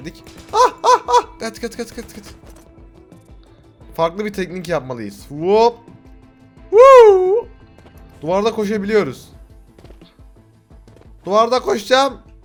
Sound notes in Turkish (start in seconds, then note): 6.7 Wooop